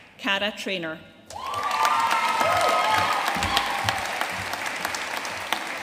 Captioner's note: audience cheering and applauding